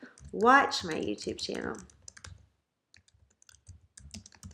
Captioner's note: typing